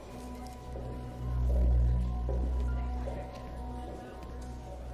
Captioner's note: echoing footsteps in distance